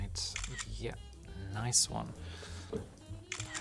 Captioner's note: camera shutters